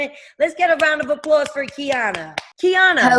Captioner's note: clapping